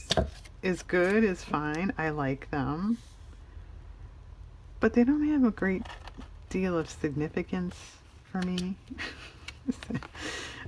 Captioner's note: laughs